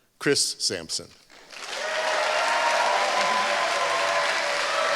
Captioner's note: applause